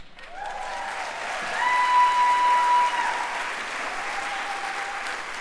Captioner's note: applause